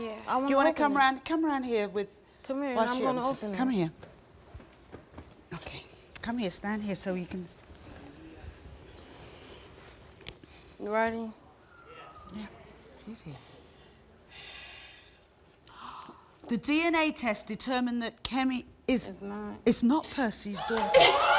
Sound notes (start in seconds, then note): 15.1 gasping